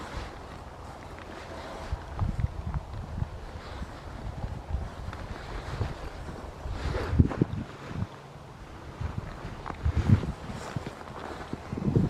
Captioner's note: wind